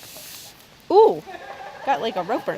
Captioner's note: rope sliding